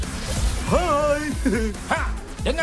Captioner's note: laughs